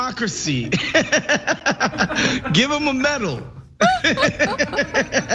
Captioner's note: laugh